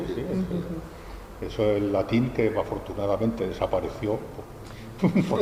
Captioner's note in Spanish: risas